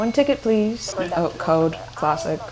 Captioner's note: dings bell